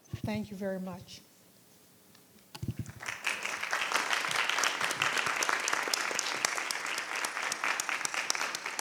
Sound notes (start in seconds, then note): 2.8 applause